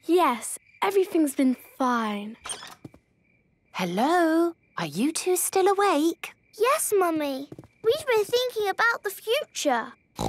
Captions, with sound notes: - Yes, everything's been fine. - (whisper) Hello, are you two still awake? - Yes, Mummy. We've been thinking about the future.